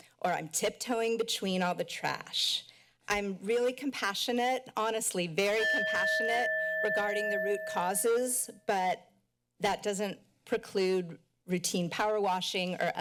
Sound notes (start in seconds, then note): 5.6 timer dings